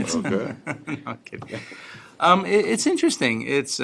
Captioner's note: laughter